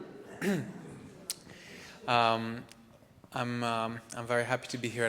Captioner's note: clears throat